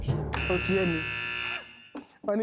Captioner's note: buzzer pressed